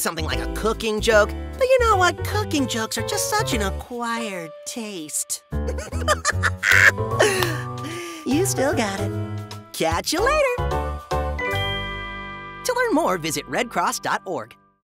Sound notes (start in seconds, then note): 5.7 laughs; 11.5 electronic chiming